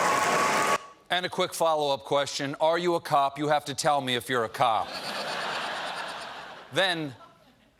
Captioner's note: audience applause